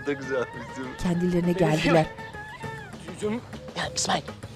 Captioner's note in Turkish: Kekeleme sesi